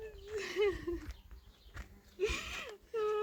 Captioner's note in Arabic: ضحك